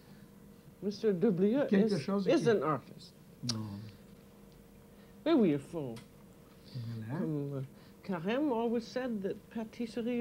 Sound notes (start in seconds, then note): 4.7 both conversing in French